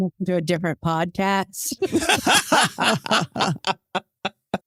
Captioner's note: laughing